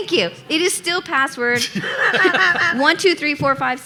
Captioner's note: laughing